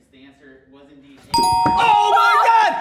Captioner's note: bell rings; yelling